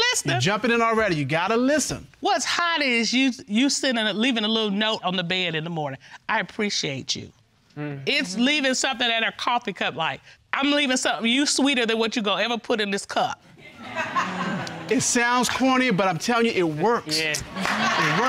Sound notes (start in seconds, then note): 13.6 audience laughs